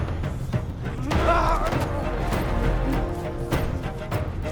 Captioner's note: both moaning